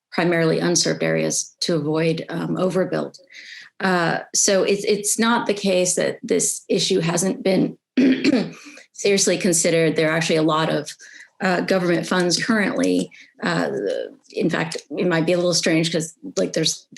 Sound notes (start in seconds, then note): 8.0 clears throat